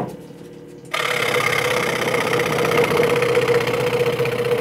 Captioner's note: sound of sawing